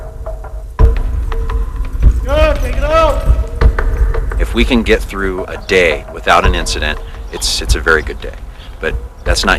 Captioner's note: shouting